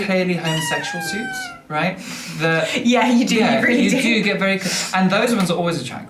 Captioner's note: laughter